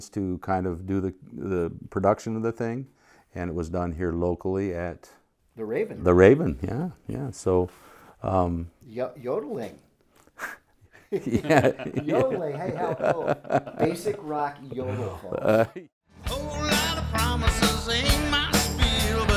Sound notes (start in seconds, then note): 11.0 laughing